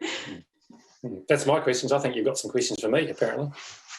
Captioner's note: laughs